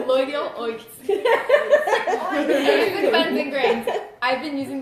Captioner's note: laughter